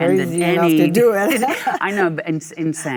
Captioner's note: Michelle laughs